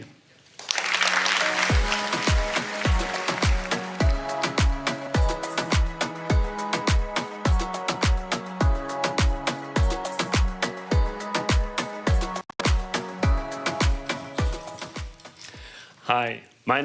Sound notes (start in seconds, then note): 3.1 applause